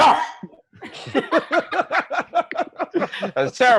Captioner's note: laughter